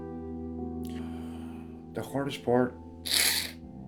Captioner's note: sighs